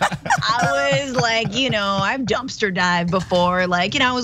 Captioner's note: laugh